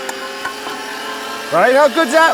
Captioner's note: metal grinding